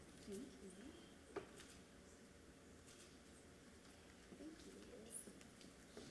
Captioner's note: speaking away from mic